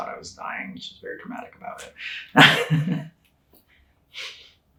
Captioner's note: chuckling